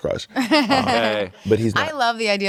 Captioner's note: laughs